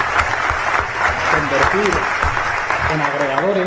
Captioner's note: applause